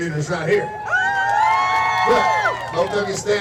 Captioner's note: spectators cheering